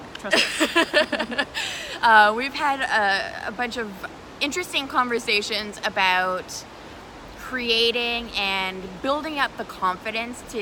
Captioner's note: laughter